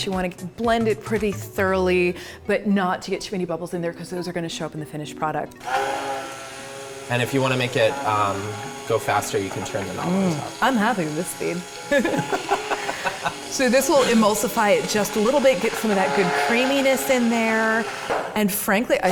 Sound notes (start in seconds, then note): 5.6 blender roaring; 11.9 hearty laughter; 18.9 blender gurgle